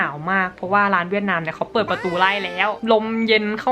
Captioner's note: hahaha